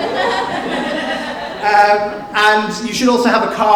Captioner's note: audience laughs